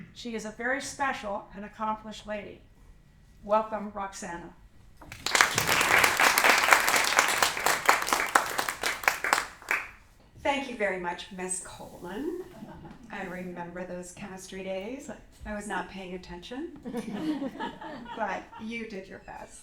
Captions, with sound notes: She is a very special and accomplished lady. Welcome, Roxanna. [APPLAUSE] Thank you very much, Ms. Coleman. I remember those chemistry days. I was not paying attention, but you did your best.